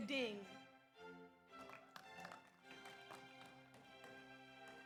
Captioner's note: audience applauds